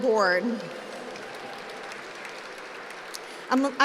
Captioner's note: applause